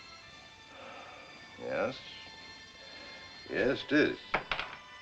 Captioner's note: sighs